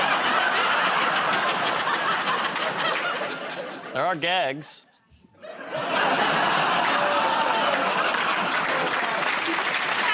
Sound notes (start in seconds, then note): 0.0 laughter; 5.4 laughter; 8.5 applause